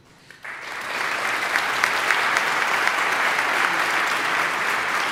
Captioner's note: audience applauding